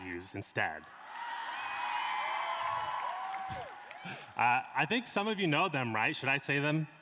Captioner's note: applause